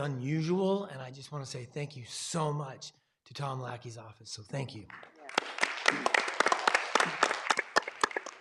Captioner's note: clapping